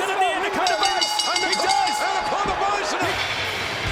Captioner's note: bell dings